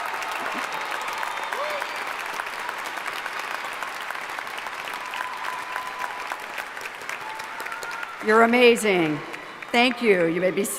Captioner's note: applause